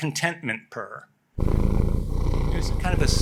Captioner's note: cat purring